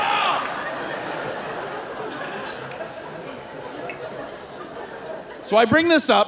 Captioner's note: screaming; audience laughing